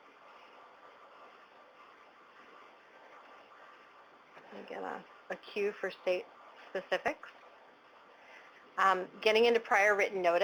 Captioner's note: pause